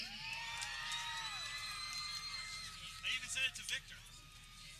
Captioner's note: people cheering